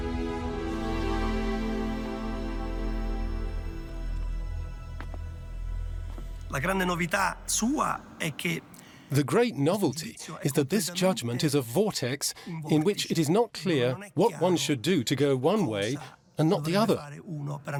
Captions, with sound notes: [music fades out] [in Italian] The great novelty is that this judgement is a vortex in which it is not clear what one should do to go one way and not the other.